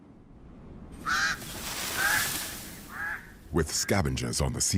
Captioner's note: birds cawing